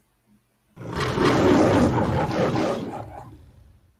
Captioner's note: troll growling